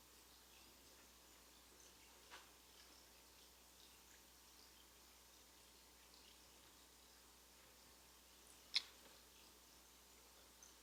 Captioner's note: trickling water noise